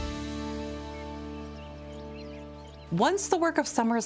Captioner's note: birds chirping